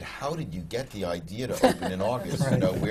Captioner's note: laughs